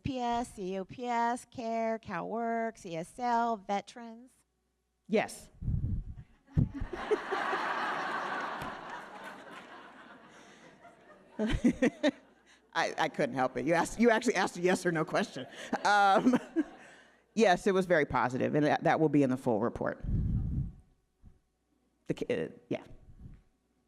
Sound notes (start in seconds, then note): 6.7 audience laughing; 12.8 laughs